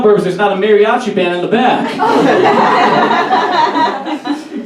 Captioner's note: audience Laughs